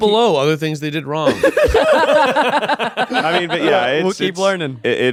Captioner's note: all laughing